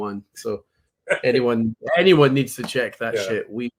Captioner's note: laughs